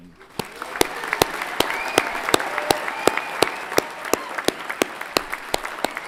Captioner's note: everyone clapping and cheering